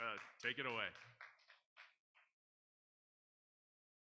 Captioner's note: audience applauding